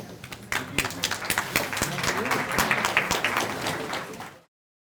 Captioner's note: applause